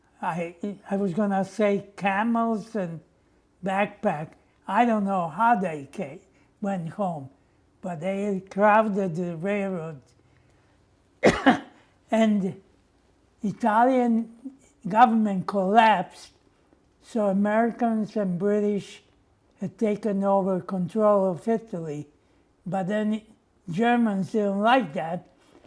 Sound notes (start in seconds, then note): 11.2 coughing